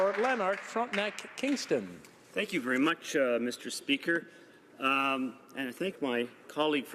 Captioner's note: speaking French